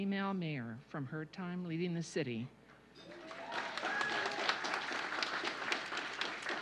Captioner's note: applause